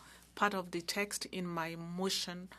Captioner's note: speaking French